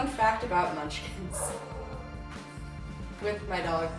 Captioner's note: dog barking